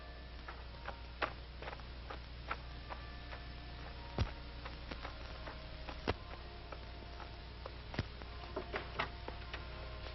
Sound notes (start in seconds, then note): 3.1 clock chiming